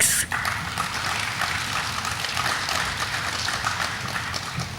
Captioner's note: audience applauding